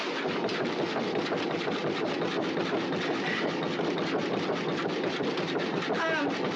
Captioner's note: crate rumbling